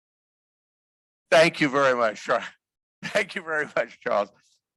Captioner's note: laughter